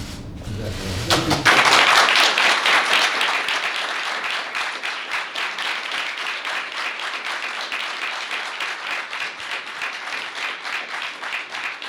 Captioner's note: applause